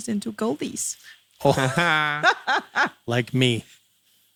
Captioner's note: laughing